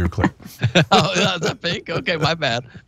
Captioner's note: laugh